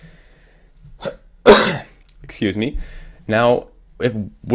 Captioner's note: caugh